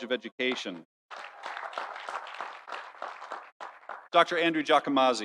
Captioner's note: audience applauding